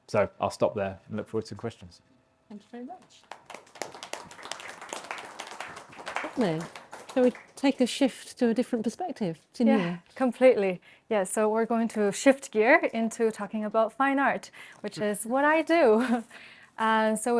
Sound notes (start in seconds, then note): 7.0 audience applauding; 16.4 chuckles